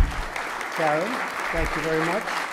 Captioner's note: applause